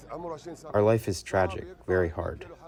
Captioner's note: through translator